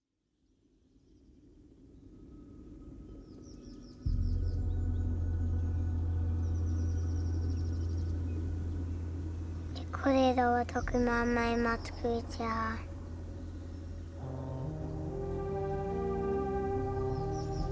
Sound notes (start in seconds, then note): 3.1 wind whooshing; 9.5 speaking in a foreign language; 14.7 dramatic music